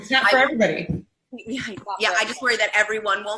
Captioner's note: laughing